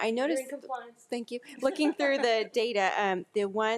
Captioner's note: laughs